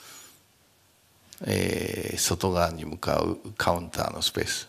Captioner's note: speaking japanese